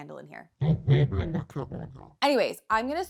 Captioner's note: audio growling